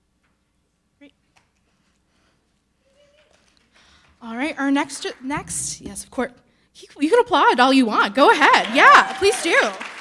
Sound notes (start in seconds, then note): 2.7 audience cheering